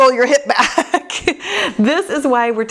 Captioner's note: laughs